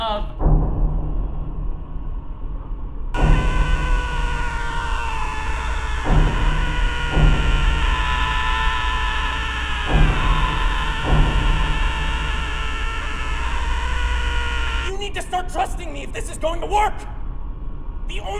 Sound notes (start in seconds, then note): 0.3 upbeat tensed beat; 3.1 man screaming